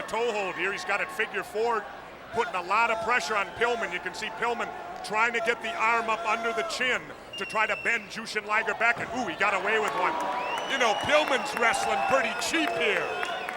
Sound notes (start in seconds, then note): 8.5 crowd clamoring